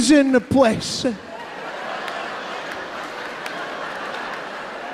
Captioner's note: audience laughing